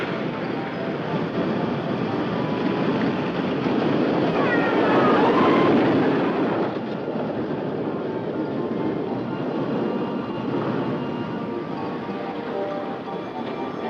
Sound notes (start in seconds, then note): 4.2 people screaming; 8.4 cheerful music